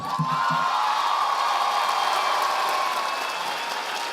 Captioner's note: audience applauding